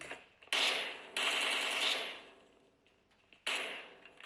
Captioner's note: shots firing